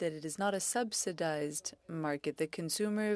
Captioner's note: speaking French